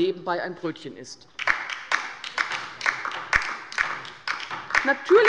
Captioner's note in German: Beifall bei der LINKEN